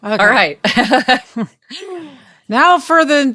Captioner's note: laughs